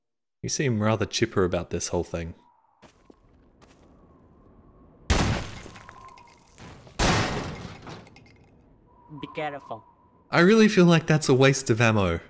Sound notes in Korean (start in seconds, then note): 5.1 총소리; 6.9 총소리